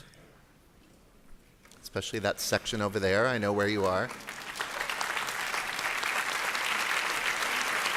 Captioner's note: applause